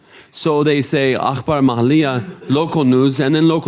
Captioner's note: speaking in foreign language